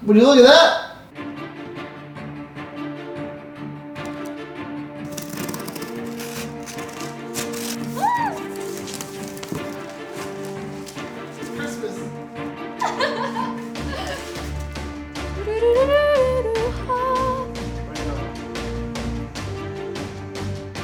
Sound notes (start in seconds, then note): 1.4 dramatic music; 12.8 laughing; 15.3 dramatic humming; 17.8 dramatic music